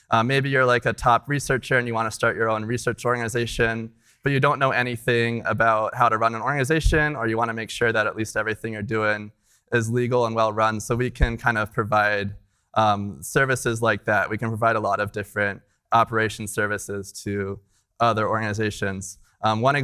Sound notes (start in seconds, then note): none